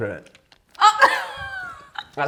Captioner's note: laughing